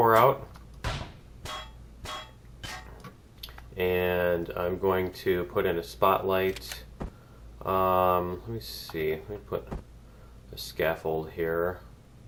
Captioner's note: pinging